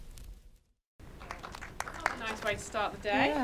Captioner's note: audience applauding